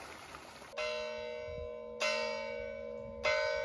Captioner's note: church bells tolling